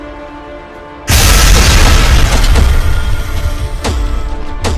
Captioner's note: ground crashes; steps thudding